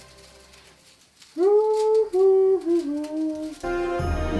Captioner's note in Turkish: şarkı mırıldanıyor